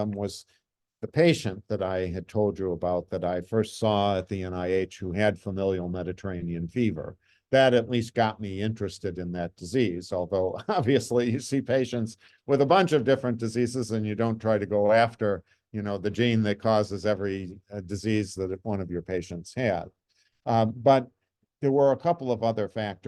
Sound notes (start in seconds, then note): 10.5 chuckles